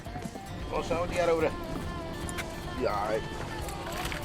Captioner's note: man chatting